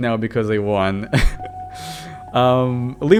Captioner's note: laughs